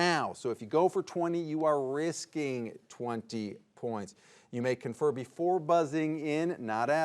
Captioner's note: none